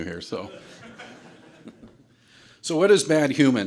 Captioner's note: audience laughter